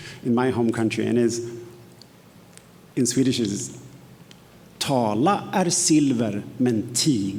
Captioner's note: speaks in Swedish